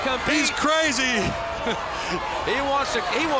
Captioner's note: laughs